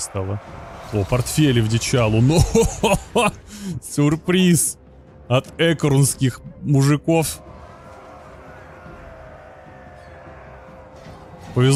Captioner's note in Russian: смех; крик